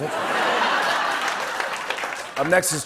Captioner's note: laughter